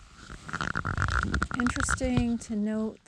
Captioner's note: camera rustling